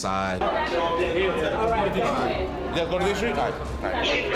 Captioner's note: people chattering